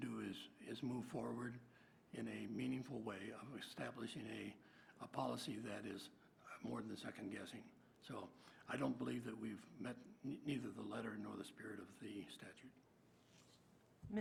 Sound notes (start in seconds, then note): none